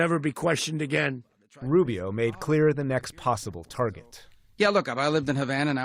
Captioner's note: voice-over